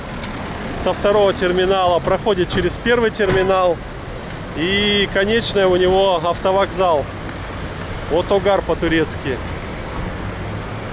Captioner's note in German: auf Türkisch